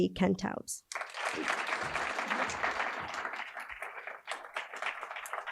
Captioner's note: audience applauding